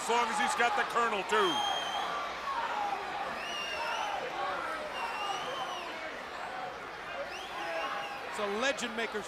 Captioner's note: crowd chatter